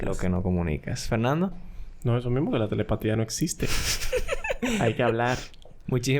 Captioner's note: laughs